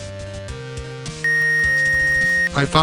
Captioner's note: X-ray beeping